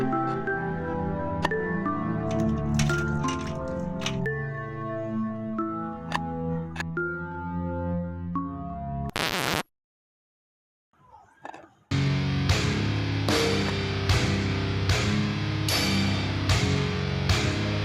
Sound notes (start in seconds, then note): 9.1 record scratch; 12.0 tense music